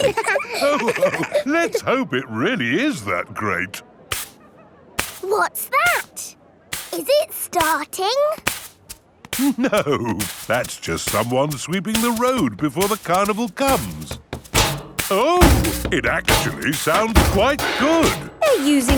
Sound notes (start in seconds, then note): 0.0 all laughing; 4.1 brushing; 17.3 rhythmic clanging